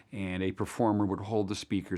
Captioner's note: none